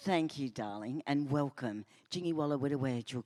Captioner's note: speaks in First Nations language